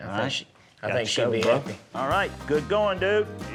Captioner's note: high-five clap